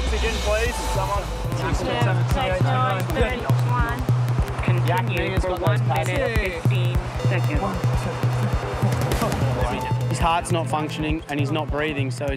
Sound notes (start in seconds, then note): 1.9 responders mumbling